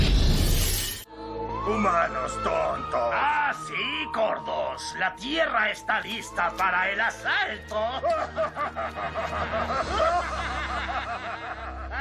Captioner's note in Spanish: risas